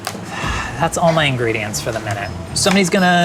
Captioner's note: sighs